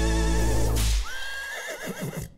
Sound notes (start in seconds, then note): 0.7 whip cracks; 1.0 horse whinnies